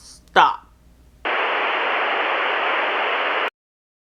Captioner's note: static noise